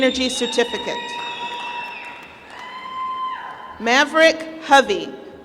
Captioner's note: applause